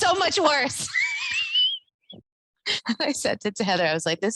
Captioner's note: laughs